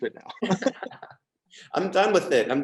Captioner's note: laughs